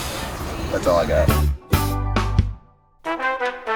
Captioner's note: voiceover; upbeat music